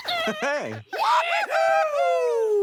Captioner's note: cheering